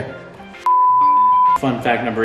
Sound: tone sounds

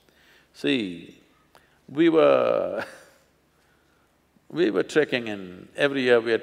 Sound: laughs

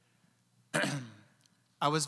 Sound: clearing throat

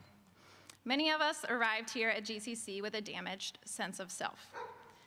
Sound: dog bark and laughter

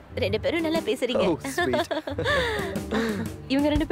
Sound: giggling

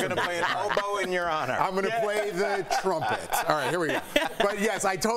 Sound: laughter

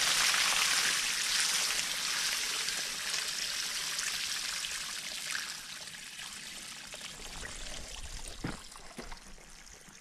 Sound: flush the toilet

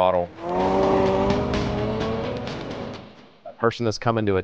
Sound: car engine revving

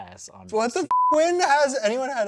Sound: beep

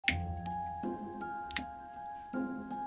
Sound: click!

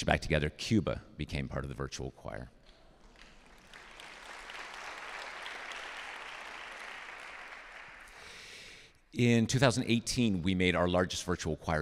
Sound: applause

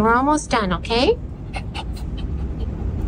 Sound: dog panting

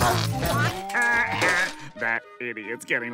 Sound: laughing

